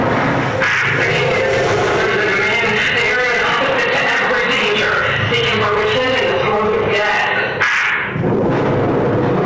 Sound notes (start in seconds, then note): 0.6 catesby over radio offstage; 8.2 closer explosion